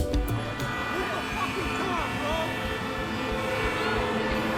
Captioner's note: car horns blaring